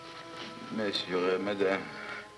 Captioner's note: speaking french